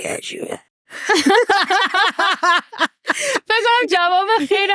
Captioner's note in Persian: خنده